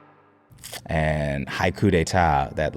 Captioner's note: lips smacking